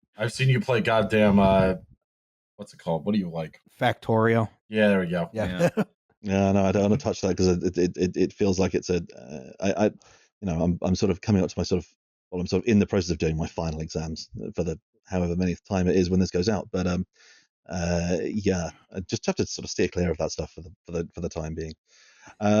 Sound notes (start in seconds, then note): 4.8 laughing